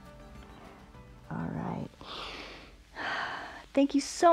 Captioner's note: inhales and exhales